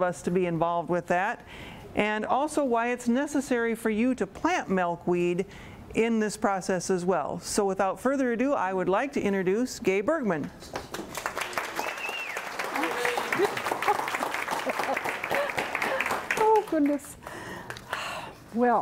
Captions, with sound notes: be involved with that. And also why it's necessary for you to plant milkweed in this process as well. So without further ado, I would like to introduce Gae Bergmann. [applause, whistling, laughing] >> Oh, goodness.